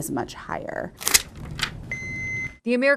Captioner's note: AED clicks and beeps